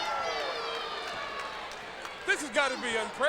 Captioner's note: crowd chatter